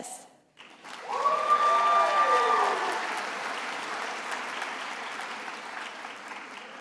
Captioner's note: attendees applauding and cheering